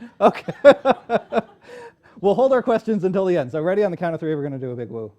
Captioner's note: laughter